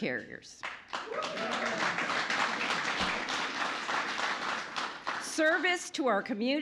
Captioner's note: applause